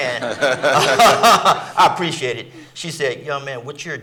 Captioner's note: audience laughing; laughs